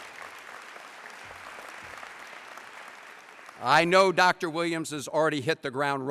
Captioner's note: applause